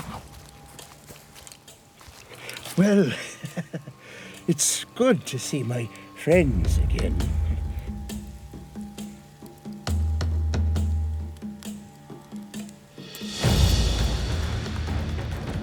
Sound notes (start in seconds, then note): 2.4 laughs